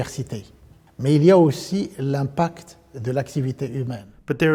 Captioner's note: speaking French